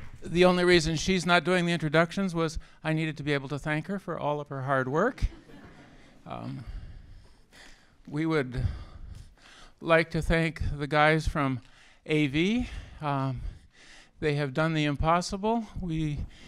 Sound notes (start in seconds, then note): 5.2 laughter